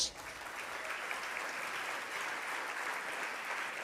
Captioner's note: audience applause